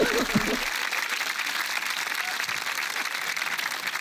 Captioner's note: cheering, applause